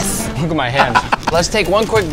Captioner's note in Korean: 웃음